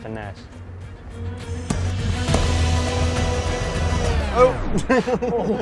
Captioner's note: action music; blowtorch gas roars; laughing